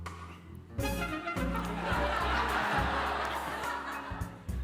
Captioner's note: laughter